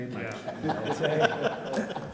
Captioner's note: people laugh